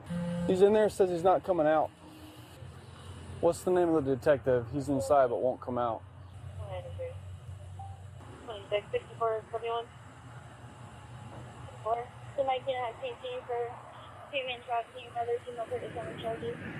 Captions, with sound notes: He's in there, says he's not coming out What's the name of the detective? He's inside, but won't come out (Radio chatter) (Radio chatter)